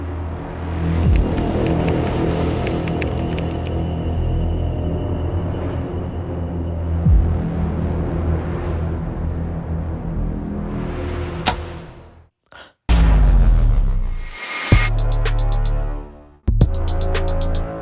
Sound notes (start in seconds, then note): 3.7 ominous music; 11.4 switch clicks; 12.1 ominous music